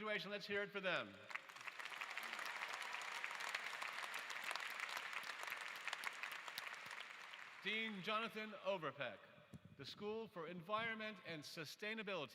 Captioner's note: applause